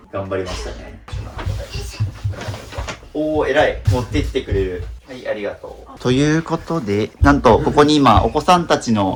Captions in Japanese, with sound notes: 頑張りましたね。 おお。えらい。持ってきってきてくれる。はい。ありがとう。ということで、なんとここに今お子さんたちの残した服を全部まとめてます。 [鼻息]